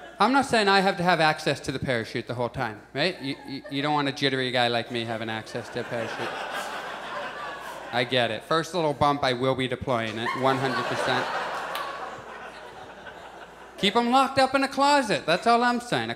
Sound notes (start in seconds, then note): 6.5 audience laughs; 9.8 audience laughs